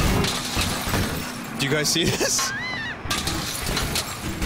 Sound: chuckles

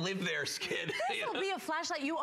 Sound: laughter

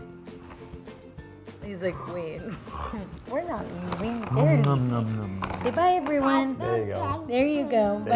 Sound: laugh

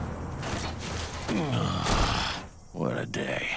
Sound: groaning

